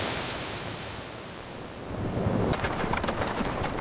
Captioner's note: wind blowing